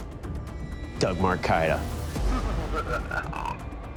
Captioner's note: evil laughter